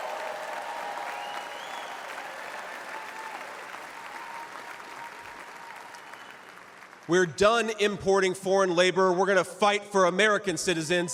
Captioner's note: cheers and applause